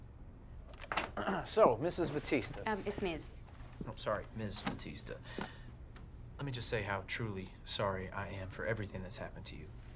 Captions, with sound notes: [Tommy clears his throat] So, Mrs. Batista. Uhm, it's miss. I'm sorry. Ms. Batista. Let me just say how truly sorry I am for everything that's happened to you.